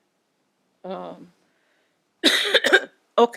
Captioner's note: coughing